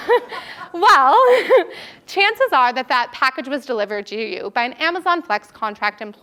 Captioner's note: laugh